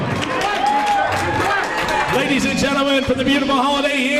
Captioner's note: crowd cheers